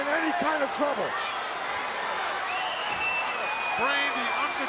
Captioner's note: crowd cheering